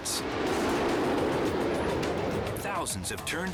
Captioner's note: engines roar